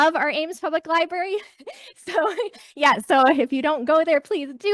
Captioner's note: chuckles